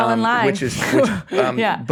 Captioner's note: laughs